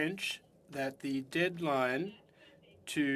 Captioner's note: speaking French